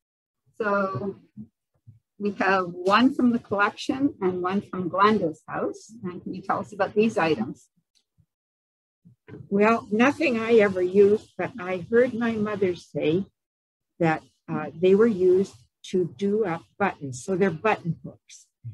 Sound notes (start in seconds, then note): none